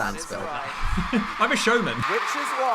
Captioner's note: chuckling